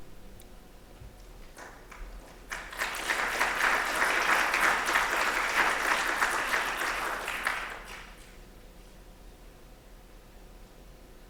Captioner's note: applause